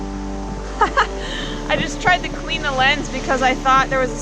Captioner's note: laughing